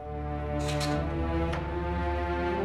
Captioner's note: door opens